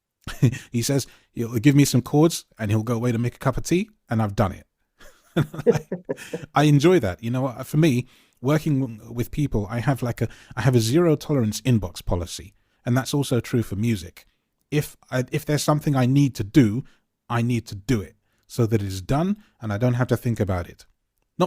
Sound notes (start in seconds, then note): 5.4 laughs